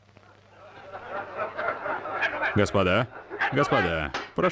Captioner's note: crowd laughing